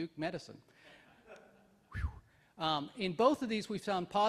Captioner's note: whistles